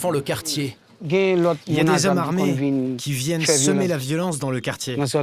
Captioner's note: French spoken audio